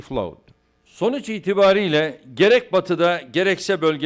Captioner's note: non-english speech